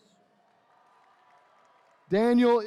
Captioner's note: attendees cheering